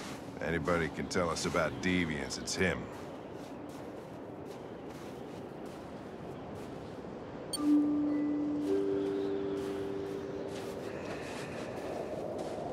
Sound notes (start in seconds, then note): 7.5 doorbell chimes